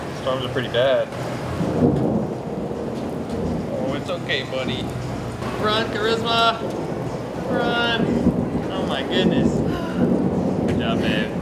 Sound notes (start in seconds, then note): 1.9 thunder rumbling; 9.6 exhales